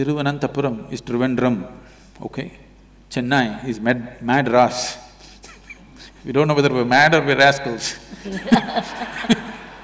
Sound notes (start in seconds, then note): 4.7 laughs; 8.2 laughter